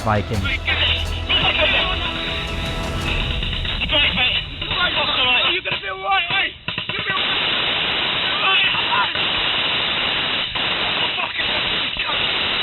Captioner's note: gun fire